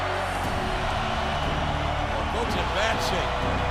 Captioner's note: audience cheering